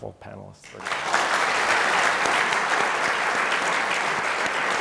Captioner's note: applause